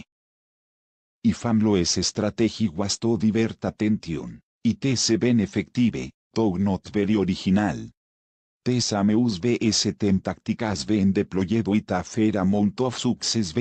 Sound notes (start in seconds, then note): 8.3 Spanish